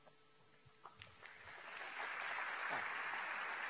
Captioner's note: applause